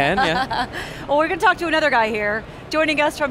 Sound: laughs

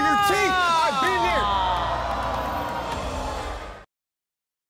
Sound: audience gasping

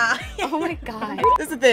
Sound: laughs; beep

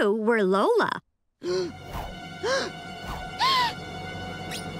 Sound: gasping

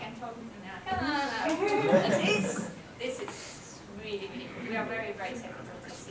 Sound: laugh

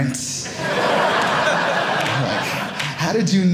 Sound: audience laughing

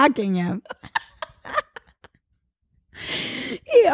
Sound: both laugh

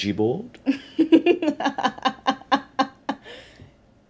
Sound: laughing

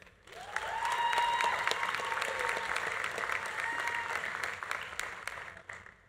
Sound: audience applauding; audience cheering

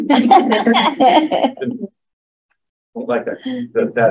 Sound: laughs

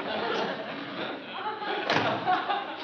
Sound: door closes

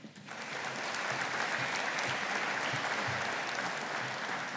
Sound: audience applauding

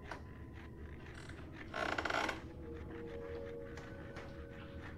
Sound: scratching

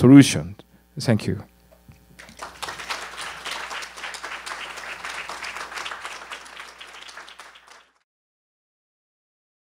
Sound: applause

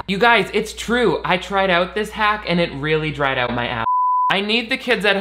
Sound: beep

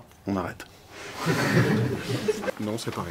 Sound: laughs

